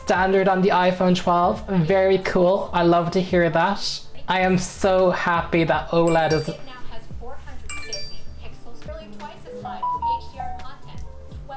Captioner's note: phones go off